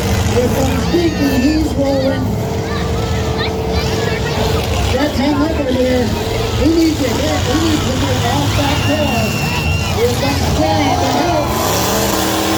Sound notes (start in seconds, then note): 3.6 crowd chatter; 3.6 engine noises; 10.1 car hits; 10.1 crowd yells OH!